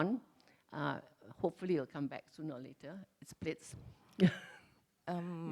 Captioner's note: laughs